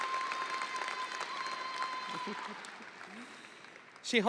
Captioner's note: audience cheering; audience applauding